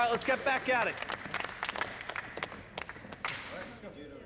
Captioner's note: scattered applause continues